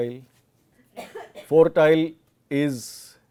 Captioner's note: coughs